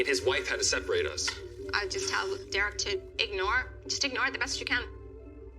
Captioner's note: quietly